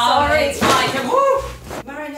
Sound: crash

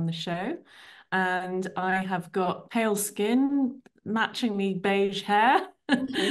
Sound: chuckles

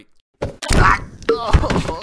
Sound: crunch

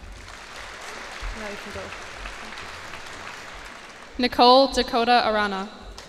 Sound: cheers and applause

